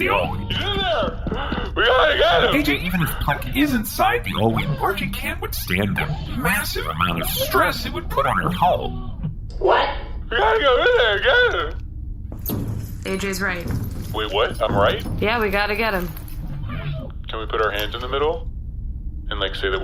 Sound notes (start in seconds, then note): 10.3 crying